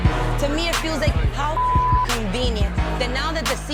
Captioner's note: beep